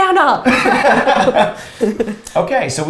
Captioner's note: all laughs